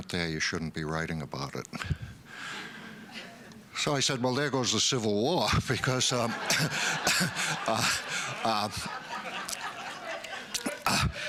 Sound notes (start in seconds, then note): 1.7 laughter; 6.0 laughter